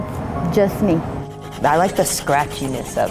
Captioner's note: pencil scratching